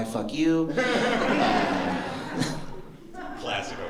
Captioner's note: laughter